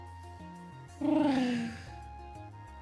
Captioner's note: trills